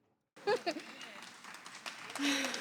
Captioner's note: applause